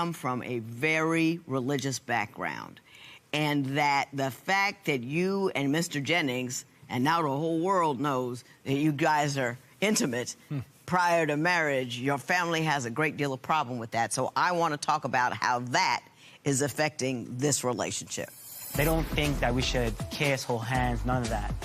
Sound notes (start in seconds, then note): none